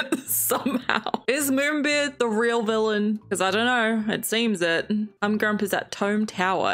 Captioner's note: laughs